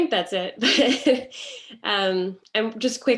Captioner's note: laughs